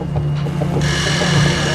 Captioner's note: machine drilling